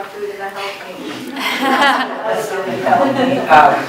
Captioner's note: laughter